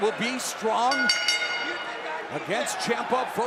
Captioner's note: bell ringing